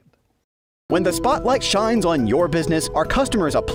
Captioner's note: voice-over